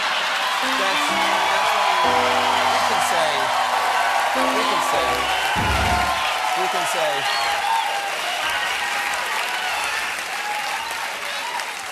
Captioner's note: cheers and applause